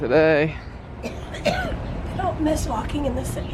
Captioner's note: coughing